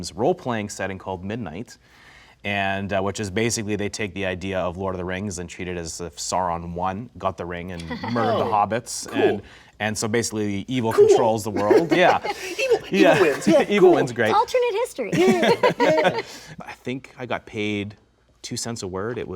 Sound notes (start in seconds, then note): 15.0 laughs